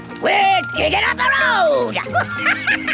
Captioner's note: chuckles